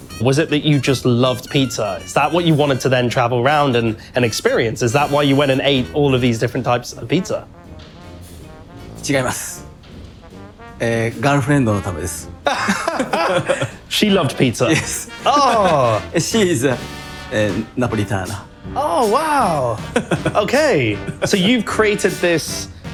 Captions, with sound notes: Was it that you just loved pizza? Is that why you wanted to then travel round and experience, is that why you went and ate all of these different types of pizza? (laughs) She loved pizza? -Yes. Oh. She is Napoletana. Oh, wow. Okay, so you've created this,